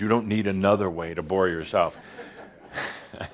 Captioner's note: some laughter; Adamus chuckles